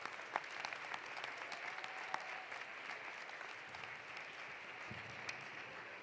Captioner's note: applause continues; cheering continues